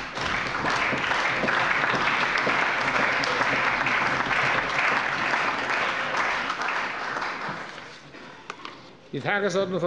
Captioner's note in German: Allgemeiner Beifall